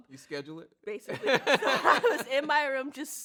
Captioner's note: both laugh